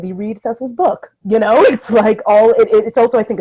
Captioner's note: laughs